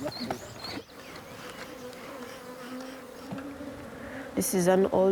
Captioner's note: speaking in foreign language; buzzing